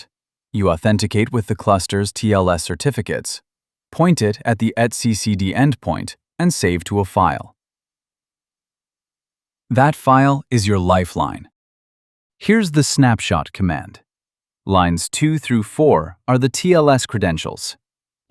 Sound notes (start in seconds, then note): 9.1 pause